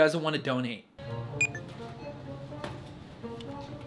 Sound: scanner dings; light music

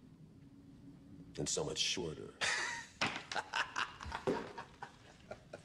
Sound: evil laughter

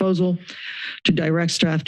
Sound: inhales

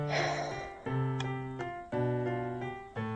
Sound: sighs

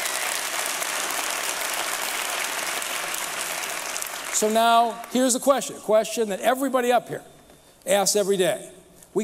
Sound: applause

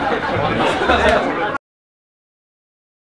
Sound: laughing

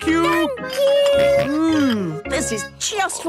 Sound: snorts

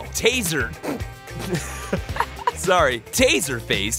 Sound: laughs

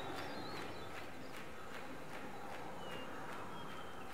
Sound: wind noise and bird song

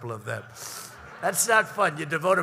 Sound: laughter

